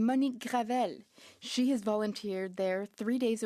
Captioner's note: speaking French